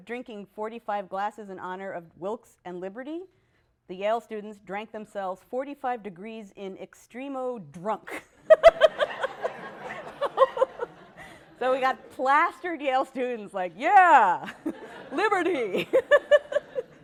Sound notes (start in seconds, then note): 8.1 laughter; 14.4 laughter